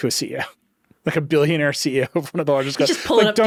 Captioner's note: chuckles